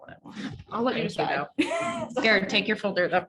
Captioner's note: laughs